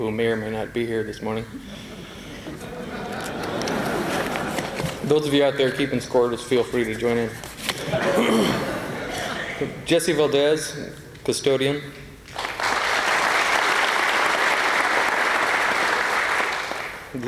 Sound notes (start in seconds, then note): 1.6 laughter; 12.3 applause